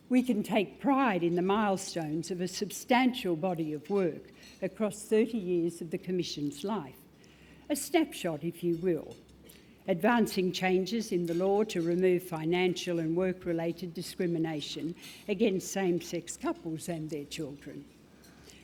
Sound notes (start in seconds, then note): none